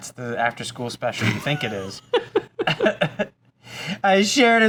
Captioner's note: laughs